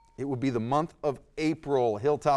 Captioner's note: ding